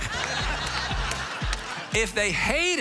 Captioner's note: audience laughs